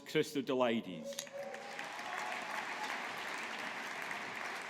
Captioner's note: audience applauding